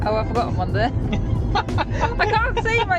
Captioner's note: laugh